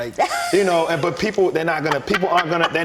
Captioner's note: laughter